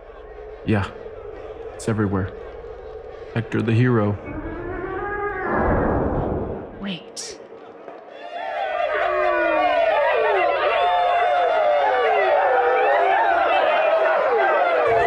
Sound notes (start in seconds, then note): 6.8 quietly, to herself